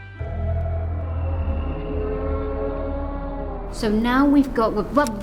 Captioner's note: mysterious groaning